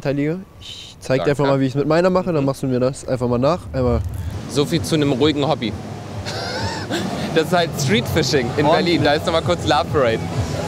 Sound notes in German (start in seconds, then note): 6.2 lacht